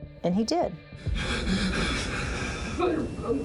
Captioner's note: sobbing